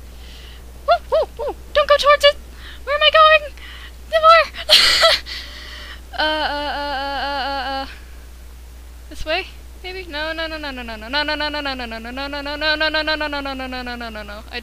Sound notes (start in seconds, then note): 4.2 laughs